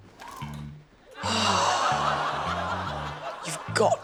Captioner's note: sighs